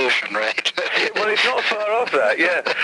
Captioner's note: man laughs